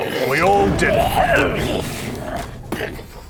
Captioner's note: hrghrlsghrghlrghhsghggh